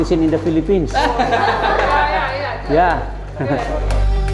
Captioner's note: laughter